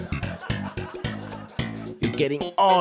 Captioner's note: mild laughter